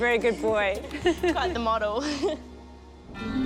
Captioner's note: both laugh